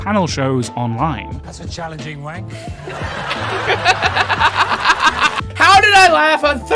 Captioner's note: laughter